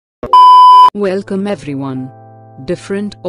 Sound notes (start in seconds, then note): 0.3 disclaimer Beep